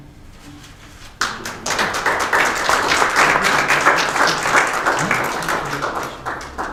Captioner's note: applause